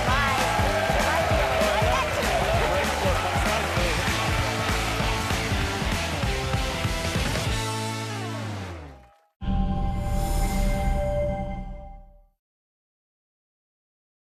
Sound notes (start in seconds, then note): 2.3 audience cheers and applause